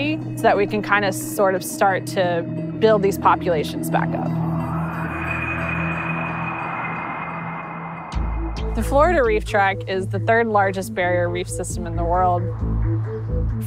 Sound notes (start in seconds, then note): 3.6 whooshing